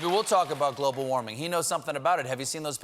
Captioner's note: applause